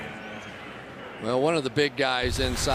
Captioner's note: pa announcement